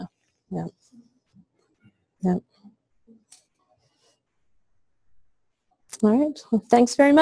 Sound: pause

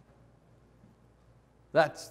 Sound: none

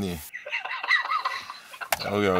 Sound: laughing

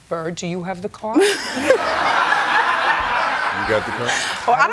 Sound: laughter

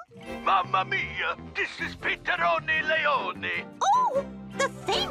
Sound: Italian accent

